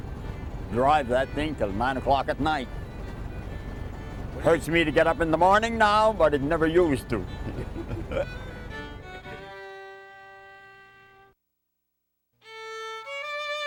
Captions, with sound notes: drive that thing till nine o'clock at night. Hurts me to get up in the morning now. But it never used to. (chuckles) (whimsical music)